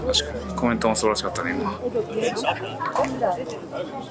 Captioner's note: laughs